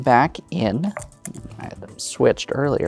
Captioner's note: dice rattling